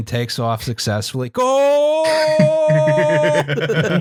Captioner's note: laughter